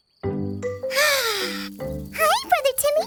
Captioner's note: sighs